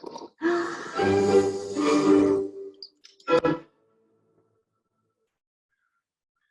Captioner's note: woman gasps; dramatic music